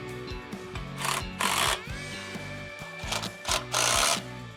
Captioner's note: drill whirring